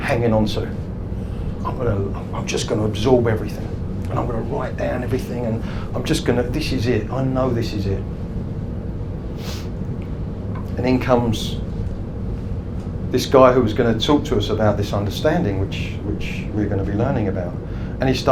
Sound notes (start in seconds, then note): 9.4 sniffs